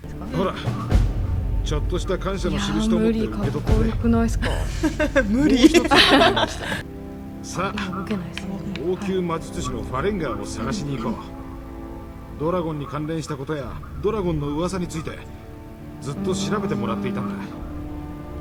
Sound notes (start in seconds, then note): 5.7 laugh